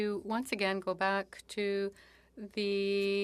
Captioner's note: speaking French